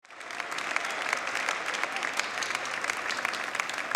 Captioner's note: audience applauding